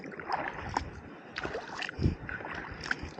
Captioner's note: paddling